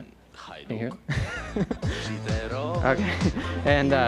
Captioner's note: laughs